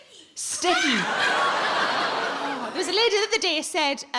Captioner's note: audience laughs